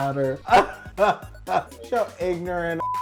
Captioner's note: laughing